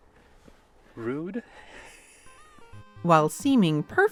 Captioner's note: laughs